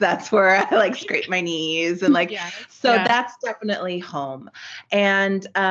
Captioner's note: giggles; giggling